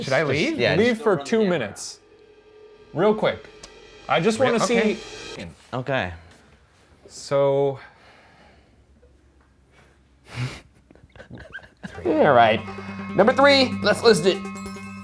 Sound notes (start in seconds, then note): 8.4 silence; 10.9 laughs